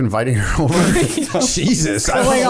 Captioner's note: laughter